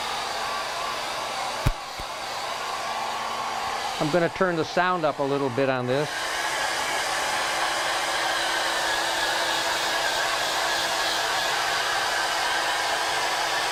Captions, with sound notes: I'm gonna turn the sound up a little bit on this. (blowdryer running)